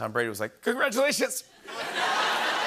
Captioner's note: voice breaking; laughter